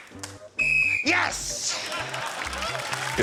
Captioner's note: blows whistle